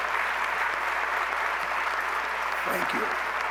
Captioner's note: applause